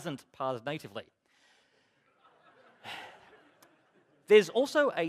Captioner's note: laughter